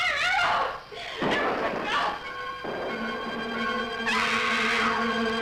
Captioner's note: explosion booms